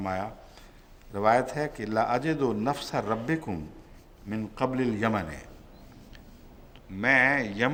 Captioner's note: Arabic